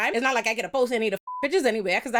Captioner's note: beep